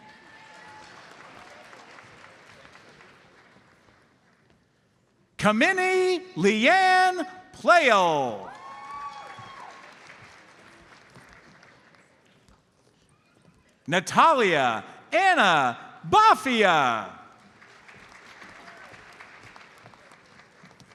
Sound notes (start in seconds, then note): 0.0 audience applauds; 7.9 audience cheers and applauds; 17.3 audience applauds